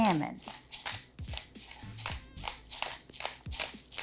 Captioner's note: pepper grinding